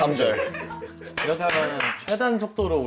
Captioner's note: satisfied applause